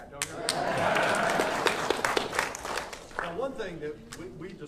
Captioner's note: audience applauding